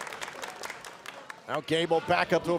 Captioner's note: clapping